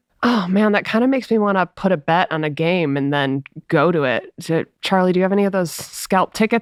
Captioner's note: none